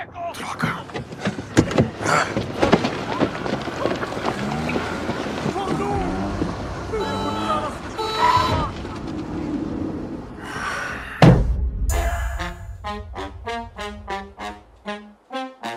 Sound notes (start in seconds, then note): 0.1 in English; 5.1 man shouting in Italian; 6.2 car horns honking; 10.4 sighs; 11.9 jazz music playing